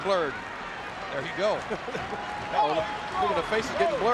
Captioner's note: King laughs